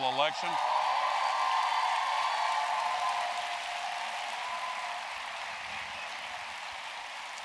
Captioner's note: applause